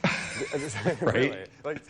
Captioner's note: laughs